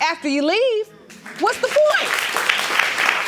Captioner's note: applauding